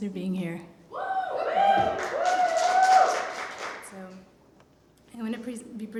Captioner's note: applause